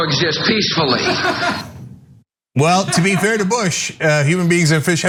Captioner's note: laugh